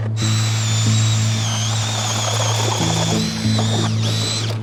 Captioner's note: auger drilling